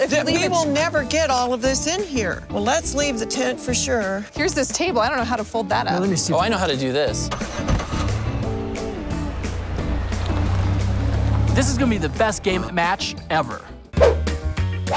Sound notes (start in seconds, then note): 7.1 car engine starting; 7.2 car engine roaring; 8.6 upbeat music; 14.7 upbeat music